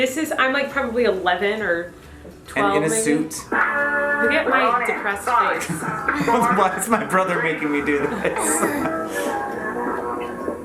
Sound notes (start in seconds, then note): 7.9 chuckles